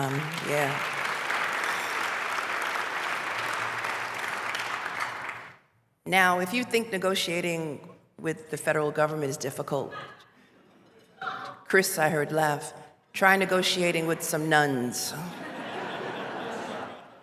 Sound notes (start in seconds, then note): 0.0 applause; 10.3 laughs; 15.3 laughter